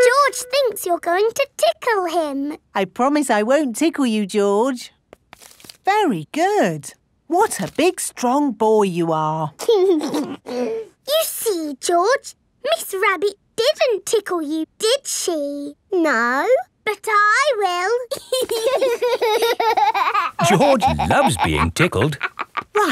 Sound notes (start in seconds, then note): 9.7 giggles; 18.1 laughing